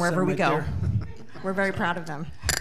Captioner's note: audience laughing